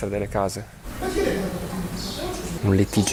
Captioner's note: people arguing